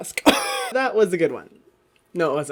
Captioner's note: laughs